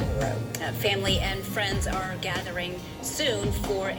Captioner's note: on TV